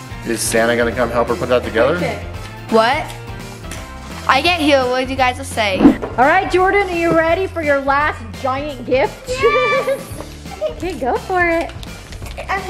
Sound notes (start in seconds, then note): 5.7 air whooshing